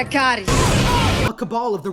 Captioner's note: fire and explosions